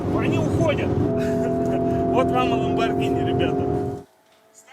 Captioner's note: chuckles